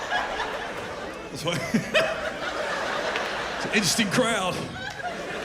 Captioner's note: chuckles